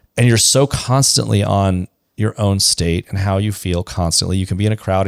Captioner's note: none